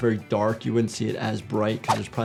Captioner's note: graphics swishing